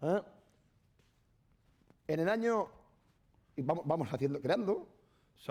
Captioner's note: speaking spanish